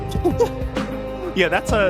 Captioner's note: laughs